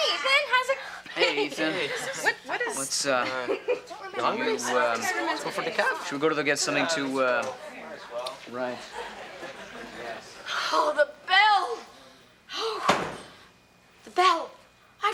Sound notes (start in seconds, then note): 0.0 students sighing; 4.0 everyone chattering; 12.5 sighs; 12.8 door shuts